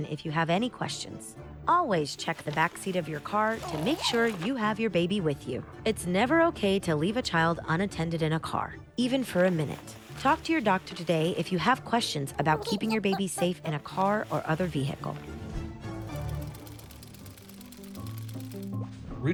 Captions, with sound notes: if you have any questions. Always check the backseat of your car to make sure you have your baby with you. It's never okay to leave a child unattended in a car even for a minute. Talk to your doctor today if you have questions about keeping your baby safe in a car or other vehicle. (gears whirring) (bright music)